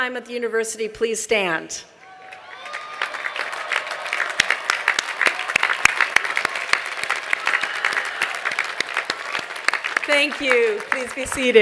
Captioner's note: applause